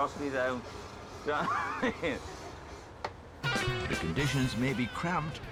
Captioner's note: laughs